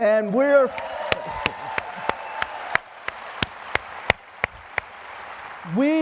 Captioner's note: applause